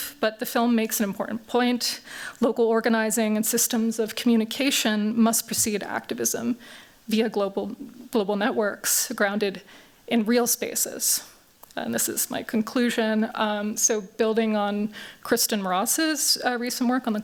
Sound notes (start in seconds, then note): none